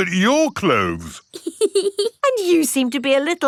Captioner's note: laughs